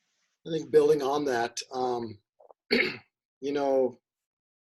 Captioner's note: clears throat